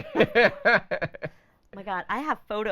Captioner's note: laughing